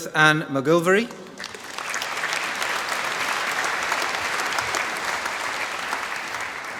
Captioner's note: applause